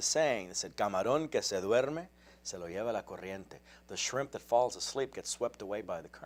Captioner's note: speaks in spanish